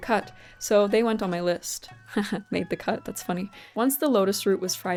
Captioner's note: chuckles